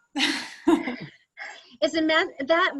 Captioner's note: laughs